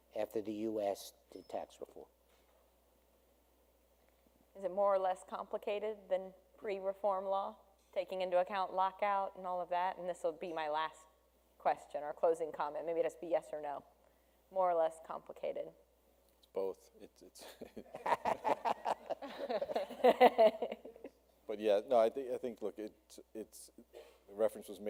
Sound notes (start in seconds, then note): 17.7 panel laughs